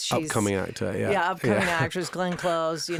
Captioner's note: Josh laughing